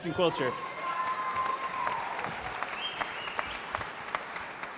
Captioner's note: applause